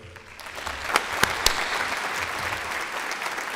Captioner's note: applause